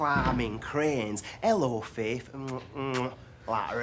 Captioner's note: makes kissing noises